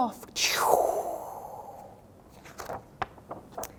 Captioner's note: swooshing